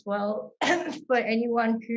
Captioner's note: coughs